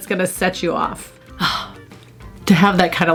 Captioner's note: sighing